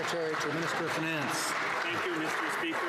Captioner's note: some Applause